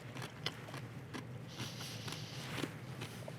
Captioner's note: sound of chewing